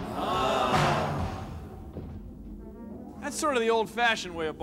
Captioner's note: <i> spectators groaning</i>